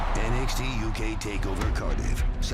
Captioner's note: crowd cheering